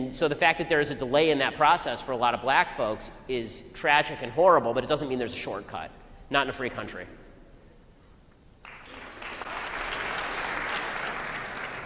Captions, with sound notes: And so the fact that there is a delay in that process for a lot of black folks is tragic and horrible, but it doesn't mean there is a shortcut; not in a free country. *APLAUSE*